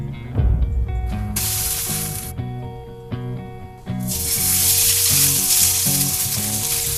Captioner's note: grilling